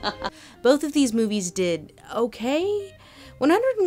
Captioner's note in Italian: voce fuori campo